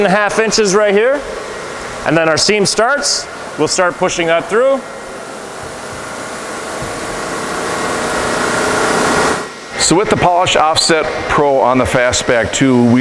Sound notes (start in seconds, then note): 5.2 whirring noises